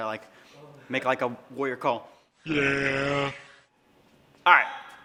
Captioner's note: growling